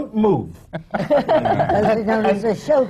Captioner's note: laughter